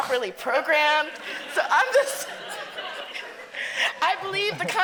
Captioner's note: audience laughing